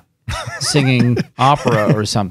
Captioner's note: laughing